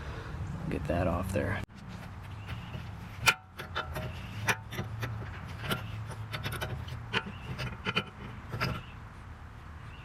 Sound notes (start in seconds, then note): 2.0 metal clanks